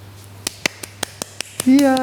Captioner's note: clapping